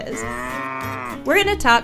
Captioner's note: cow mooing